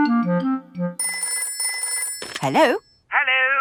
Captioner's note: telephone ringing